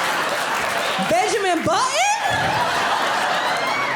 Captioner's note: audience laughing